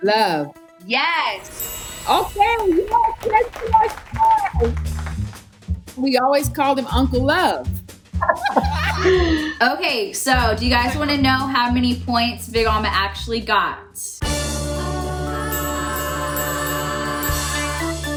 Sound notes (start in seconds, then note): 8.2 family laughing